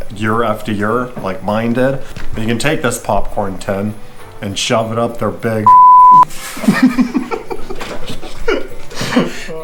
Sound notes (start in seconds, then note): 5.6 beep